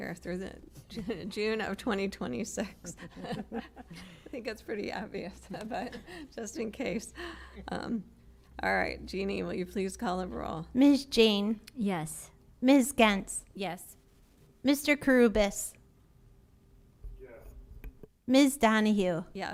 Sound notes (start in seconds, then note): 2.6 laughter